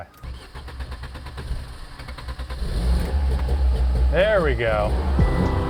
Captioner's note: engine starting